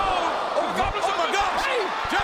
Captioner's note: audience groans